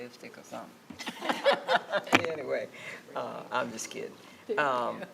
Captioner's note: laughing